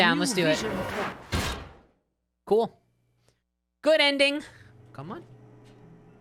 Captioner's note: crushing sound